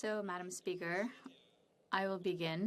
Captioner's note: speaking French